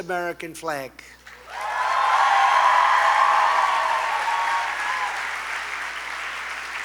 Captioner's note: applause